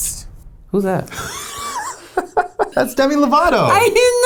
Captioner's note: laughs